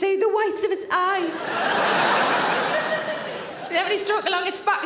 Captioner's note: audience laughing